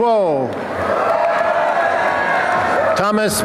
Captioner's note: applause and cheering